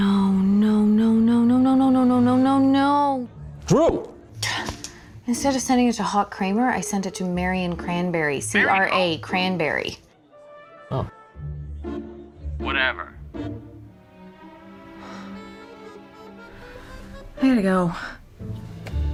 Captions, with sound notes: NO... NO, NO, NO, NO, NO, NO, NO NO, NO! DRU! INSTEAD OF SENDING IT TO "HAWK CRAMER," I SENT IT TO "MARIAN CRANBERRY" C-R-A... - MARY WHO? - CRANBERRY. OH... WHATEVER. [SIGHS] I GOTTA GO.